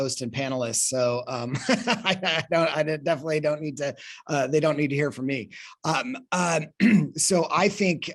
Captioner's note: laughs